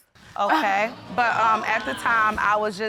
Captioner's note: audience exclaiming